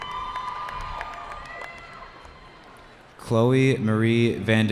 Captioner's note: cheering